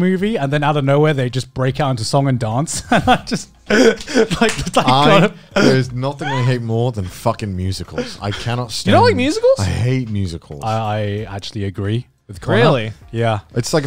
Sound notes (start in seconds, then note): 3.7 everyone laughs